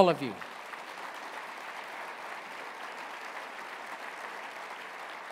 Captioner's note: applause